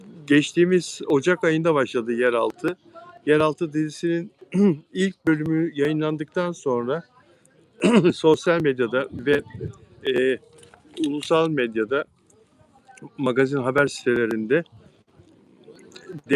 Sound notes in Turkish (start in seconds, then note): 5.1 boğazını temizler